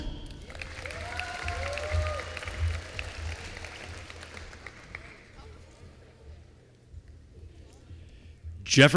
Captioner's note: applause